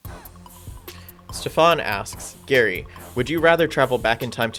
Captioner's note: voiceover